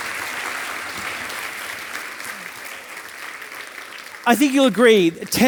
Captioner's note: audience applauding